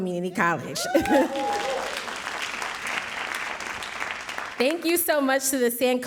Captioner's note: audience cheering and applauding